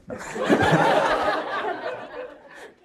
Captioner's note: crowd laughs